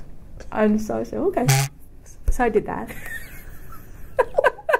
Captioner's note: recorder moves